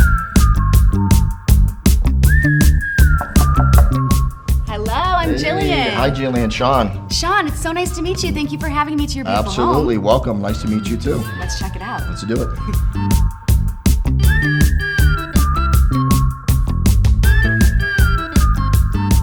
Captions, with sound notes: (door taps) Hello, I'm Jillian. - Hey. - Hi, Jillian. Sean. - Sean, it's so nice to meet you. Thank you for having me to your beautiful home. - Absolutely, welcome. Nice to meet you too. - Let's check it out. - Let's do it. (steady music continues)